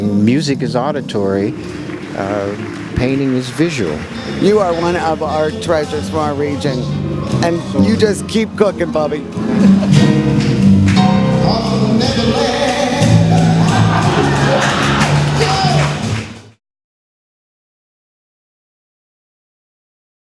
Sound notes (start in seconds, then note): 9.3 laughs; 14.3 audience laughs